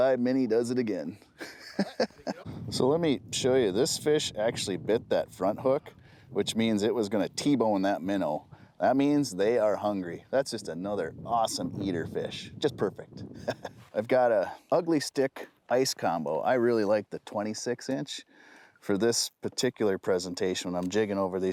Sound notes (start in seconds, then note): 1.4 he laughs